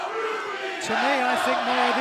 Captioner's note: fans chanting